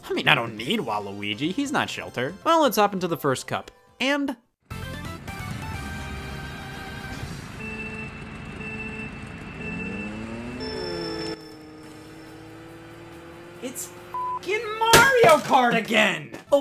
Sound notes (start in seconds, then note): 7.2 Mario Kart countdown begins; 14.1 beep